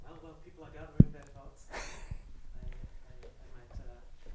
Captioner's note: student mumbling